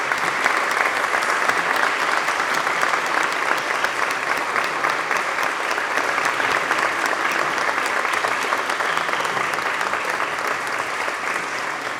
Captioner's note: applause